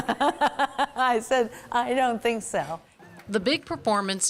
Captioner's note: laughing